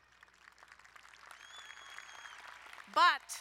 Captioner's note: crowd cheering and applauding